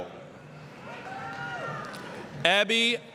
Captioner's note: applause, cheering